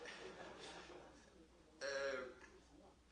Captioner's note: laughter